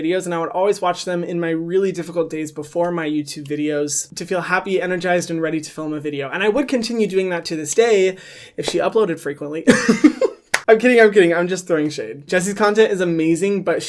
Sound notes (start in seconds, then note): 9.7 laughs; 10.5 claps